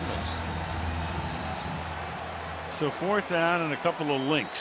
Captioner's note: cheering